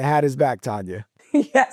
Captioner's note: chuckling